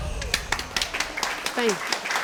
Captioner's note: crowd applaudes